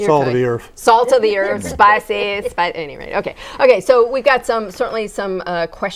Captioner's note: laughing